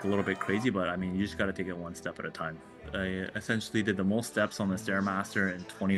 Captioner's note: cheers and Applause